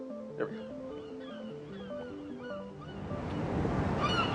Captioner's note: birds chirping